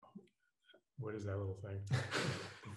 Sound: laughing

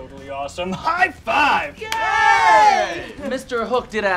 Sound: all cheering

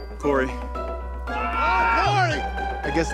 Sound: screams

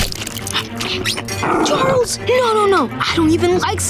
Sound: growling

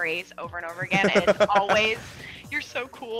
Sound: laugh

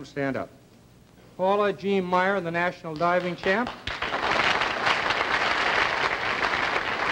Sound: applause

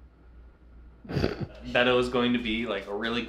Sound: snorts

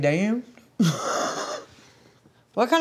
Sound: laughs

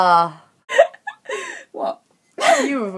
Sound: laughing

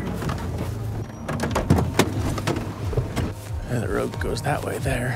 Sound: door handle clicks

